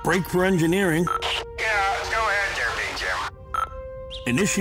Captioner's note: Engineer Joe on loudspeaker